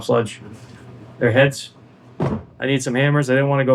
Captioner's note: hammer